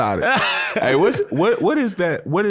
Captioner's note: laughing